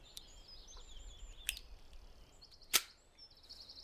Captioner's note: gun chamber closes